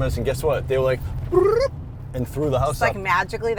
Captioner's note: cartoonish sound